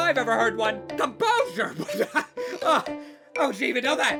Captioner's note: laughs uncomposurely